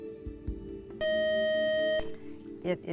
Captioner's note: time-out buzzer